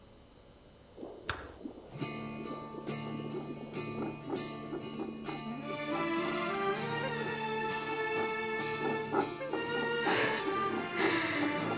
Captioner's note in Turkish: Kalp Atış Sesi